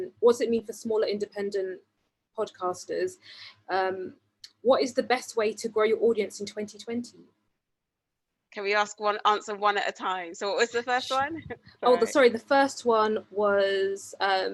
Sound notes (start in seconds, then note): 11.5 giggles